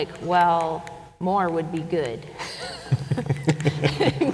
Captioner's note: chuckles